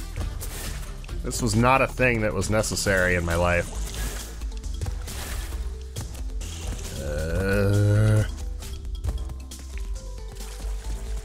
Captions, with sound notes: This was not a thing that was necessary in my life... *"I regret my life choices" groan*